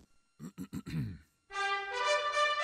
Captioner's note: sighs; clears throat